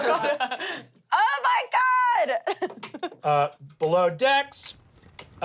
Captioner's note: laughs